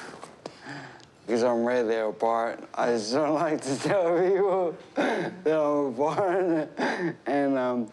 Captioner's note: chuckles